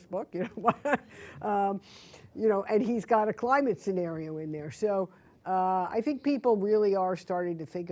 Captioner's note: laughter; laughs